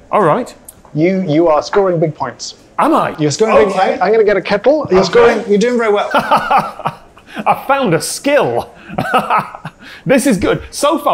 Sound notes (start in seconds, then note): 6.0 laughs